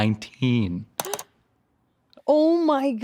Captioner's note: keyboard typing